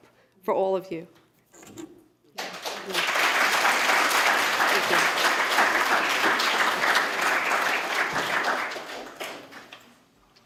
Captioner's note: applause